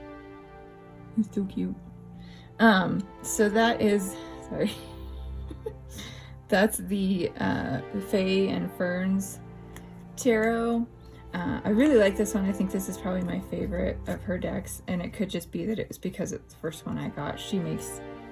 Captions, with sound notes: it's so cute! Um, so that is, sorry (laugh), that's the, uh, Fae and Ferns Tarot, uh, I really like this one, I think this is probably my favorite of her decks and it could just be that it was because it was the first one I got, she makes